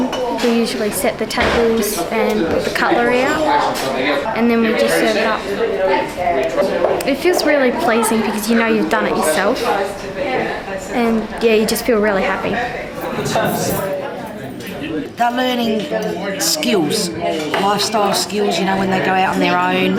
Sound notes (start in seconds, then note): 5.6 chatter; 10.7 chatter